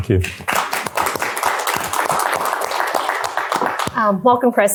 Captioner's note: applause